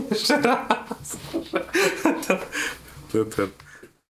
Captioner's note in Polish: śmiech